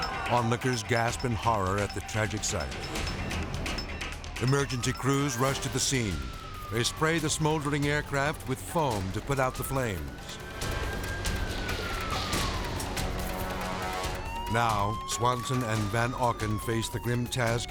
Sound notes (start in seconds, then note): 10.9 sirens wailing